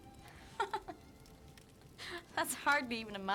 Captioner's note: woman laughs